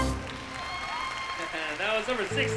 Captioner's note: applause